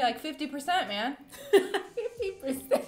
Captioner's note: laughs